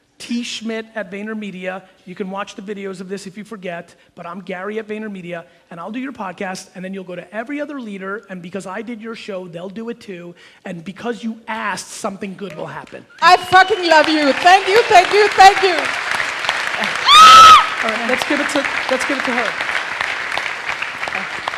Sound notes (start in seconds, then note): 16.1 audience cheers and applauds; 16.8 screams with enthusiasm